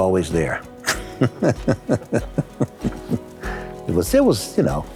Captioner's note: laughs